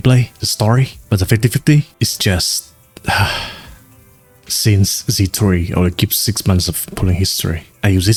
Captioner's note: sigh